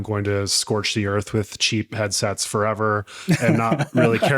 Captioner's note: laughing